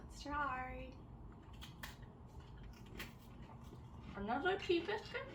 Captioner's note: eating